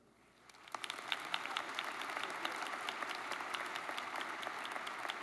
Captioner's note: audience applauds